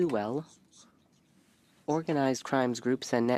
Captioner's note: speaking French